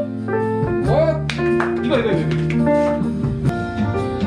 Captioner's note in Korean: 박수